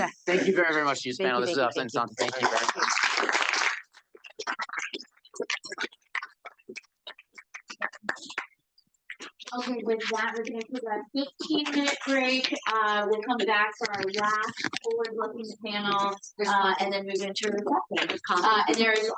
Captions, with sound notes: - Thank you very much to this panel. (audience applauds) - 15 minute break. We'll come back after that.